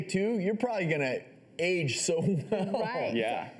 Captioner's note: laughs